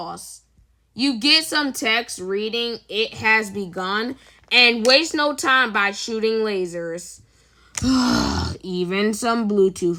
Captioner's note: sigh